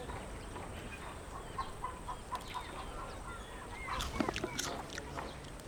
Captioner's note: roosters clucking